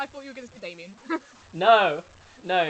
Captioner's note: laughs